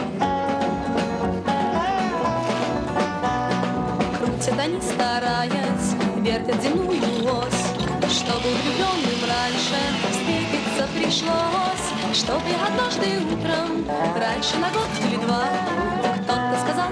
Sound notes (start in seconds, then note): 1.9 ice crunching; 4.4 child singing in Russian; 8.5 chainsaw whirring